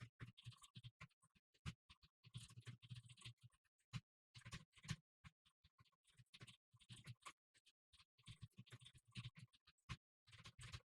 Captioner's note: typing sounds